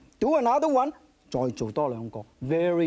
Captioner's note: speaking in foreign language